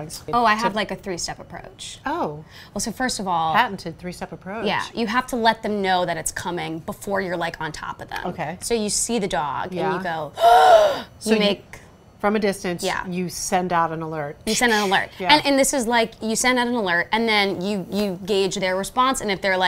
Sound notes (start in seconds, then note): 10.4 gasps